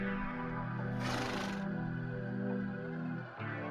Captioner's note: snorts